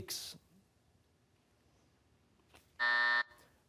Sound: buzzer

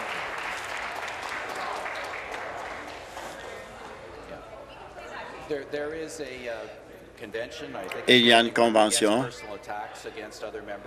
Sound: applause

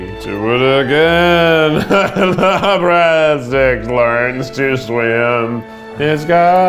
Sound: laughs

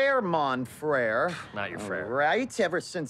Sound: scoffs

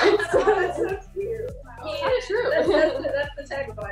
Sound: laughs

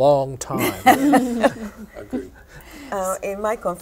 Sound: laughter

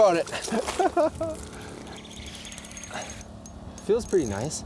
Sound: laughs

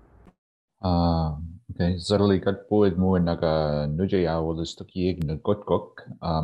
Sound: speaking in Wolastoqey language

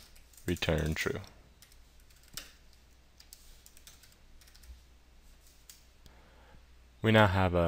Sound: keyboard Sounds

